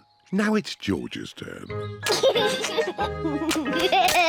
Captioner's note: chuckles